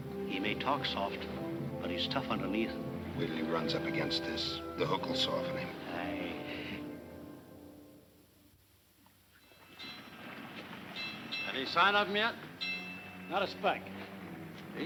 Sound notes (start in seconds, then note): 10.8 bells clanging